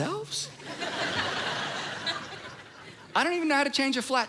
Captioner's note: congregation laughing